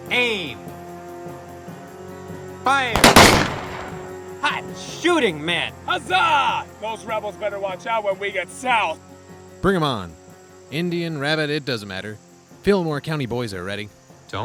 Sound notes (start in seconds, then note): 2.9 gunshots cracking